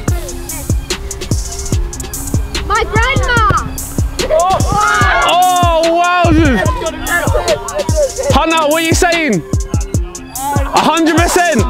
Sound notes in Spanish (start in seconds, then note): 0.1 música lenta de hip hop; 4.1 vítores de la multitud